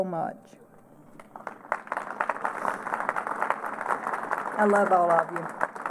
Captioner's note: applause